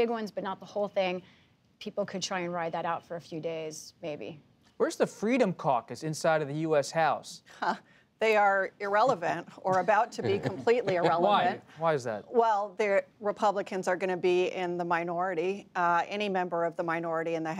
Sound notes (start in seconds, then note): 9.7 laughs; 9.8 laughter